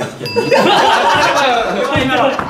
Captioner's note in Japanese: 効果音：チーーン